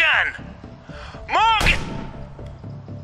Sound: gunshot

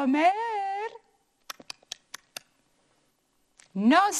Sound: chomps; speaking in foreign language

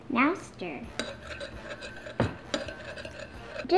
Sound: stirring

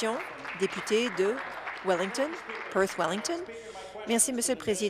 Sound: applause

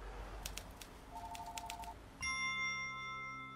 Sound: phone rings; soft jingle

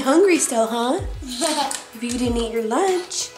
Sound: laughter

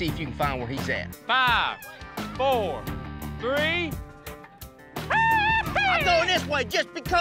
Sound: yelling excitedly

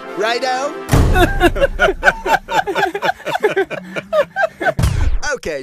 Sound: laughter

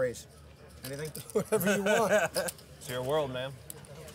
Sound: laughing

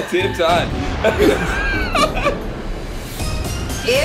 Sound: laughing

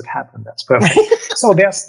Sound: laughs

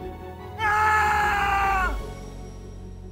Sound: screams

